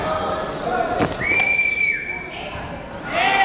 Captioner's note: whistling